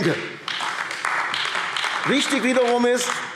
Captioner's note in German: Beifall AfD